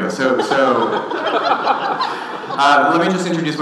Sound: audience laughing

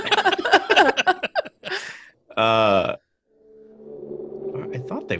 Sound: laughter

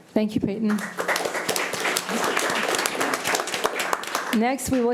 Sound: committee applauding

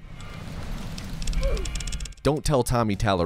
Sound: Roblox OOF

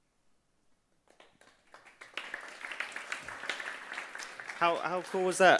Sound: audience applauding

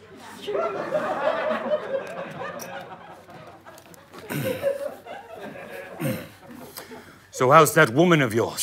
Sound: audience laughter

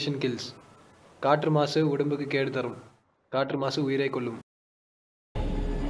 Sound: in Tamil

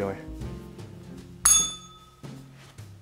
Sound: bell rings

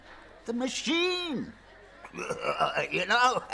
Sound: makes machine noises

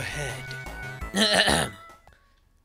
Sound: Sonic clears his throat

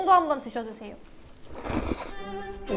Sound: slurp

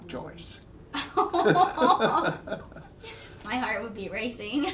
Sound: both laughing

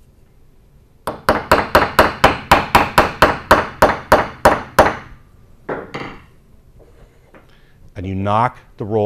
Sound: bangs on wood

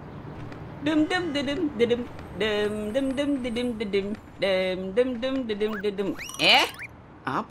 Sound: humming

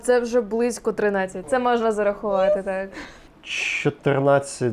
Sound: joyful sounds

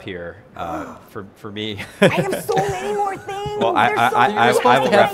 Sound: gasps

